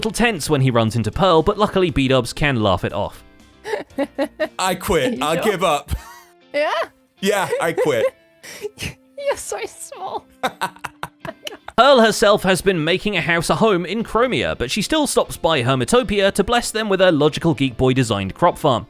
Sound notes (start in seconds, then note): 3.6 giggles; 7.3 giggles louder; 10.4 laughs